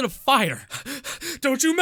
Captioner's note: heavy Breathing